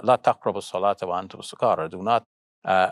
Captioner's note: speaks in foreign language